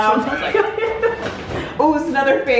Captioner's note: laughing